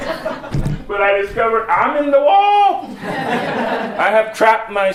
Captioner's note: laughs; laughter